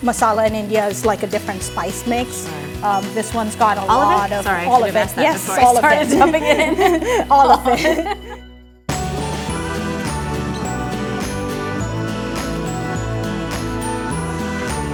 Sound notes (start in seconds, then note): 8.0 both laughing; 9.0 cheerful upbeat music